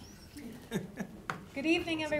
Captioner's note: laughing